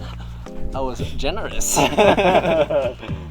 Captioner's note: laughs